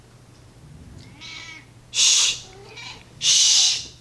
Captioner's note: cat meow; irritated cat meow